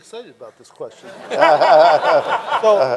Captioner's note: everyone laughing